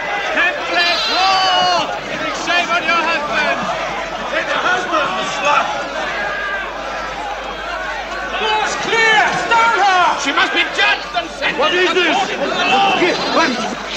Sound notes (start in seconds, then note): 1.0 crowd noise